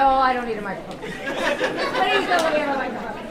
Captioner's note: audience laughing